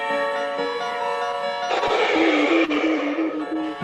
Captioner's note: clears throat